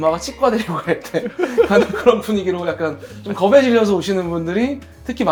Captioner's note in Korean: 웃음